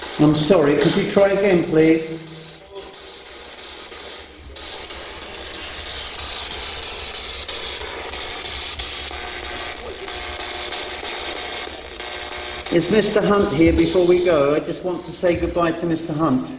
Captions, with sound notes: I'm sorry, could you try again please? (static buzzing) Is Mr. Hunt here, before we go? I just want to say goodbye to Mr. Hunt.